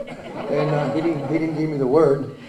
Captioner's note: laughter